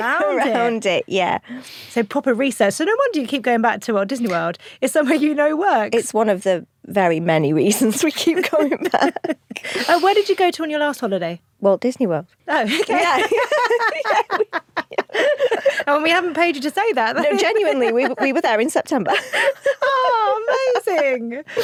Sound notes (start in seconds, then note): 12.6 laughs